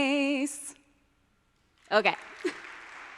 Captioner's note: audience applauding